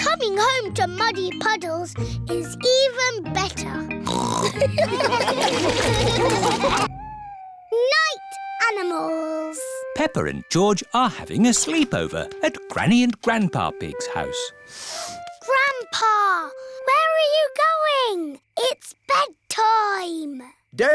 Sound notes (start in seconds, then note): 4.0 snorts; 4.5 laughter